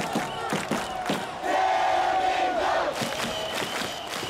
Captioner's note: crowd chanting and clapping